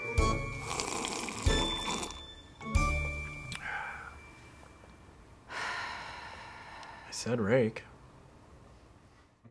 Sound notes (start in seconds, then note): 0.5 slurping noise; 3.5 sighs